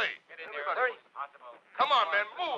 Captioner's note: all chattering